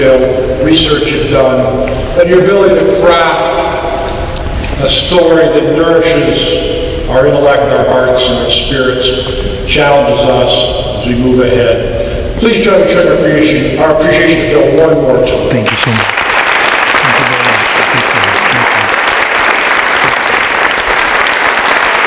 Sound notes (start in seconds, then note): 17.1 applause